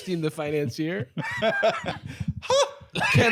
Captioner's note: laughs